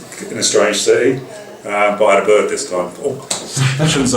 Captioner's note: laughter